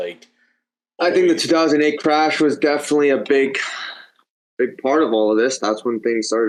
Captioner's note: sighs